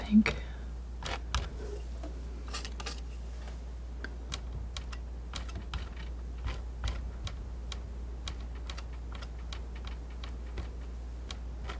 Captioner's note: tapping